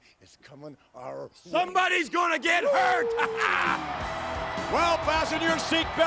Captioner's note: laughs